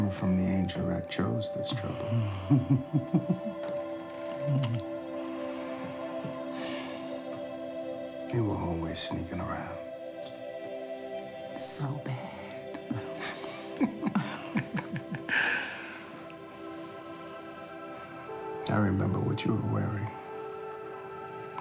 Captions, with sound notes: Okay, coming from the angel that chose this trouble. You were always sneaking around. - So bad. (laughs) - I remember what you were wearing.